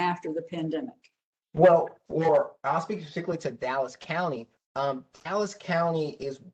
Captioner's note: professor speaking